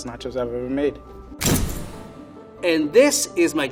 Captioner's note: slamming